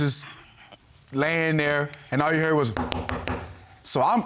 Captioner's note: knocks on table